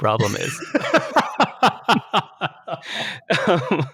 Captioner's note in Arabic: يضحك